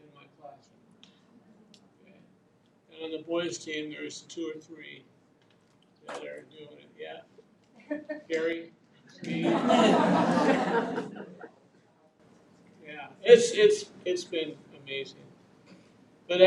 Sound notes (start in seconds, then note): 9.2 audience laughing